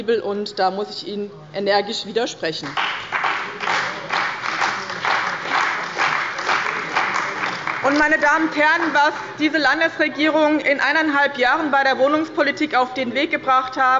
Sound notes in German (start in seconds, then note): 2.6 Beifall bei dem BÜNDNIS 90/DIE GRÜNEN und der CDU